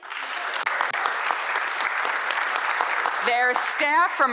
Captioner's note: applause